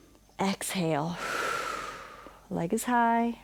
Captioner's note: inhales; exhales